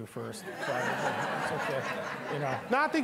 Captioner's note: all laughing